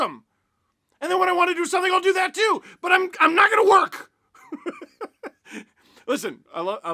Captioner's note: laughter